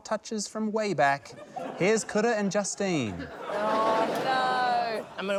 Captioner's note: laughter